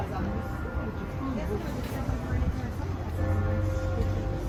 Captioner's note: bell tolling